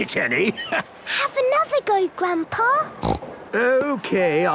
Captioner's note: snorts